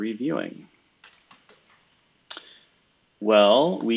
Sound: computer keyboard clicking

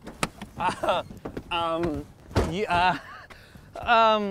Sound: laughs

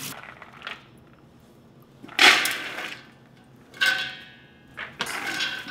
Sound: beans rattling

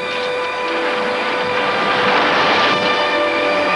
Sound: canoe splashing

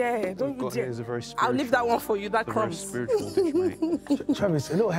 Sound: laughs

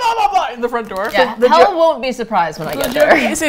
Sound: laughs

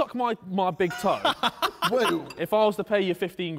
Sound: man laughing

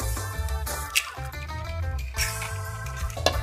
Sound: cracking

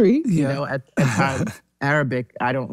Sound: laughs

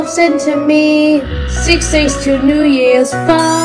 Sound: Terence growling

